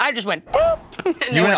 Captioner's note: tire screech; laughs